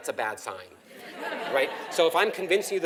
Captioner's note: laugh